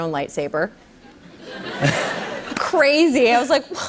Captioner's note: laughter